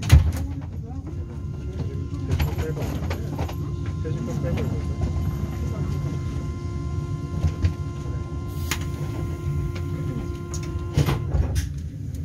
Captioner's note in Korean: 출입문 닫힘